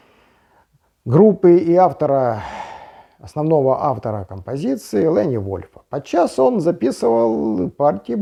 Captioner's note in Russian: вздыхает